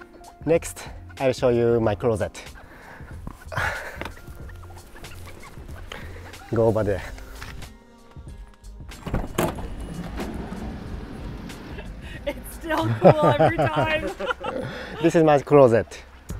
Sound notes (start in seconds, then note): 12.6 laughs